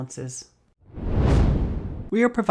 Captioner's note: air whooshing